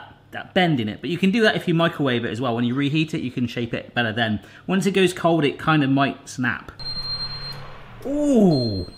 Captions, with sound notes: that bend in it, but you can do that if you microwave it as well, when you reheat it you can shape it better then. Once it goes cold, it kinda might snap. (high-pitched beeping) Oo!